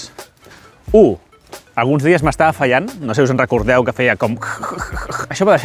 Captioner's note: interference noises